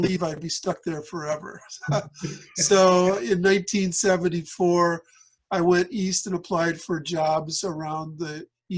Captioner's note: laughter